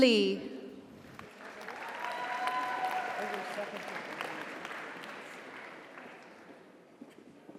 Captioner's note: audience applauds; audience cheers